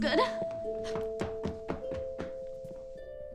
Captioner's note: footsteps